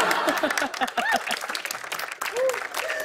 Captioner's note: laughter; applause